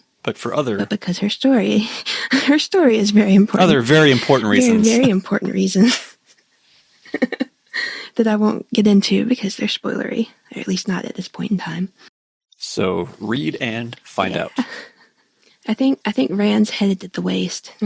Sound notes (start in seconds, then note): 3.9 laughter; 7.2 laugh